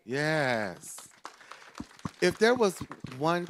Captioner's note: group claps